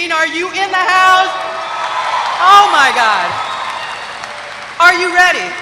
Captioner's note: applause